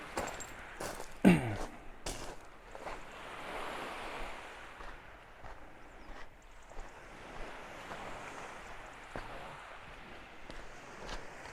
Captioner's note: wave sounds